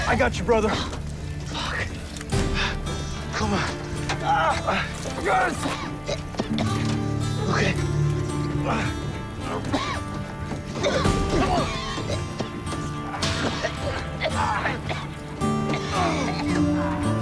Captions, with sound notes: I got you, brother. Fuck. Come on. [GRUNTING] Yes! OK. Come on. [COUGHING AND GRUNTING]